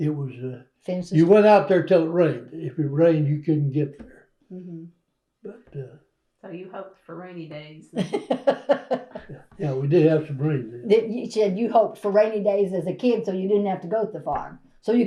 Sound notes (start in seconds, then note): 7.9 laughter